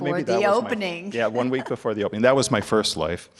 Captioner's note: laughing